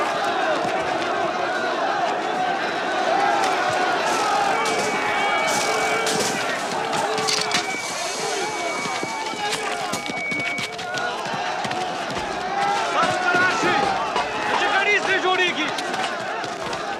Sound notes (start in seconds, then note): 12.2 shouts in Pashto; 14.0 police captain shouts orders